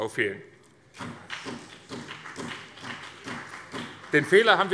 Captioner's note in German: Beifall BÜNDNIS 90/DIE GRÜNEN